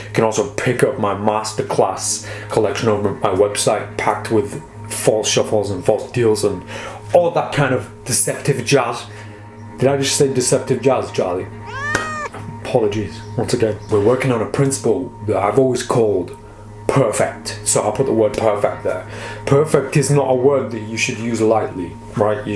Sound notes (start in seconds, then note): 11.6 cat meowing